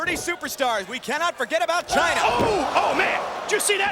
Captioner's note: Shane exclaims